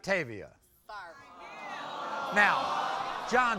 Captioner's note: audience aws